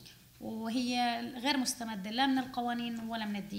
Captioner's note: speaking arabic